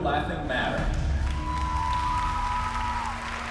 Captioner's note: cheering, applause